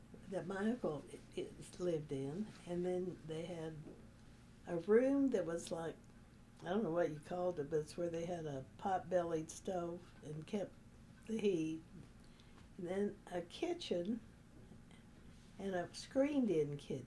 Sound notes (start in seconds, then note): none